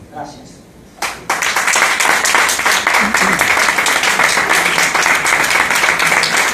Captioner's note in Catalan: Aplaudiments